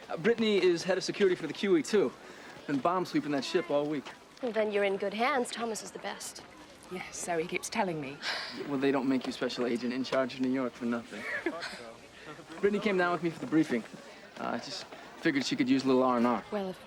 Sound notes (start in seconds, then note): 8.2 laughs